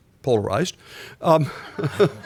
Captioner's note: laughter